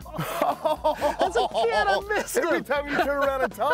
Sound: laughing

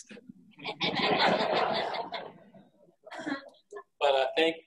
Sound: audience laughing

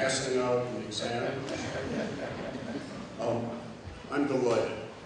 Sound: laughter

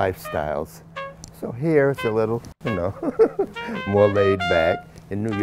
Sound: laughs

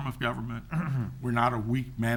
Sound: clears throat

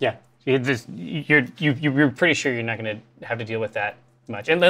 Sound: stammers

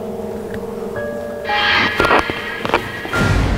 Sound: running

